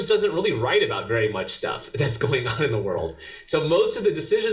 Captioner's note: laugh